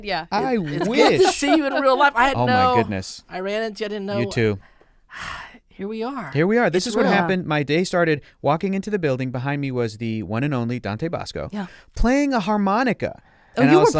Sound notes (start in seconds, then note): 5.1 sighs